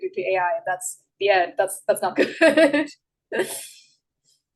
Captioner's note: laughs